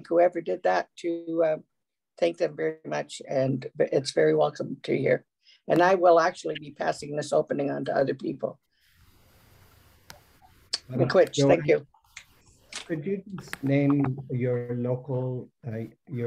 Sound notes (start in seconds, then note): 11.0 foreign language